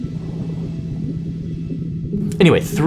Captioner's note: water bubbles